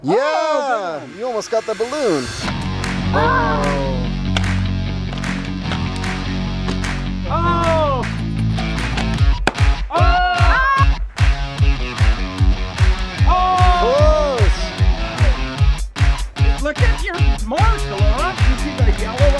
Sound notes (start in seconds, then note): 2.5 rock music; 7.5 cheering; 13.2 cheering